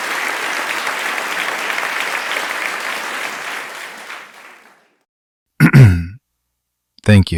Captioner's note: applause; clears throat